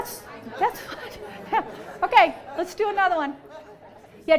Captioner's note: students talking in background